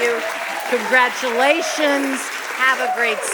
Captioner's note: audience applauding